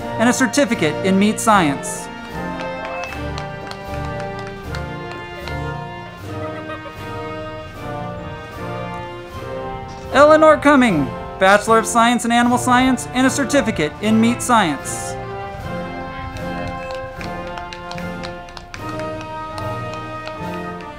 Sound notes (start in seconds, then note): 2.9 band music; 2.9 crowd clapping; 15.8 band music; 15.8 crowd clapping